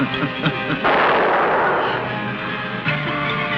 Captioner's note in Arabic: جوليا تضحك; إطلاق نار; موسيقى غريبة